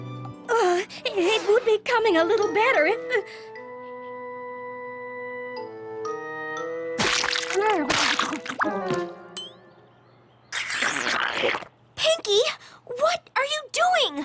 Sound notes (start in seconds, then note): 10.5 slurp!